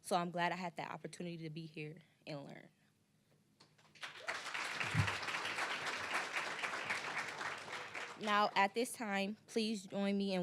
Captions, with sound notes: so I'm glad I had the opportunity to be here and learn. (applause) Now, at this time, please join me